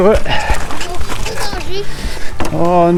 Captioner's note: kid says something in French